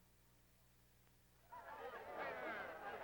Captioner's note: chatter